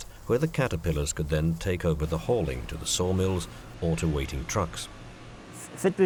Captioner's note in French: bruits industriels